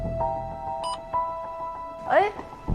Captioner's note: beep